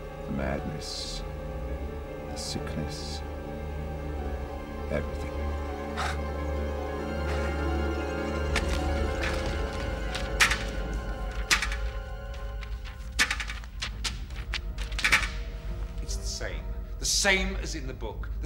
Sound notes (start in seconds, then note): 5.8 Martin laughing softly; 7.5 eerie orchestral music; 9.1 hand tapping